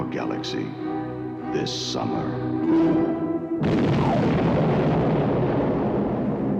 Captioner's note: explosion